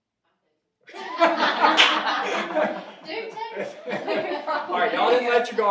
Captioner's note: audience laughing